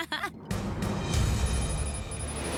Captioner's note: laughs